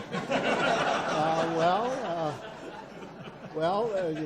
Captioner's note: audience laughs